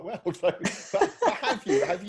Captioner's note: both laughing